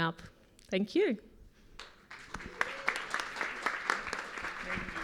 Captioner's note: applause